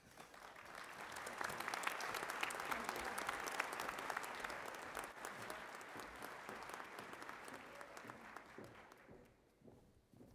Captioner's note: applause